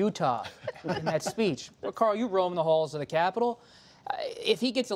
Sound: laughter

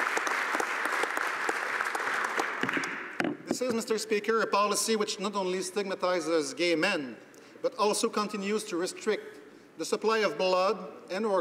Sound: applause

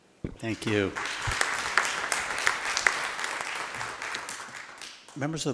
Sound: attendees applauding

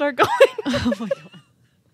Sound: chuckles

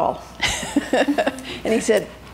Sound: laughing

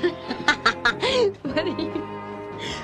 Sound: Lydia laughing

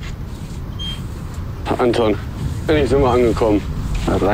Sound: babble of voices

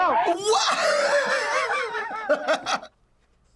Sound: laughs

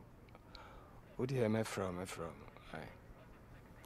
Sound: in Twi

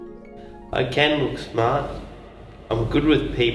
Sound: voice of Ben thinking

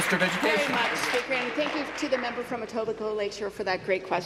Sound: applause

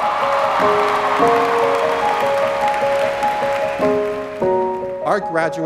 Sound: cheers, applause

